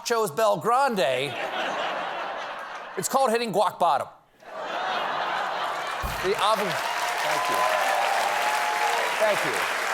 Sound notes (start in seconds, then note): 4.4 laughter; 5.6 applause